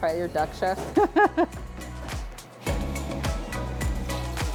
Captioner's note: laughs; upbeat music